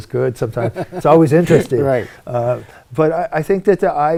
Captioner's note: laughing